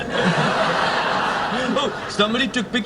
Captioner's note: laughing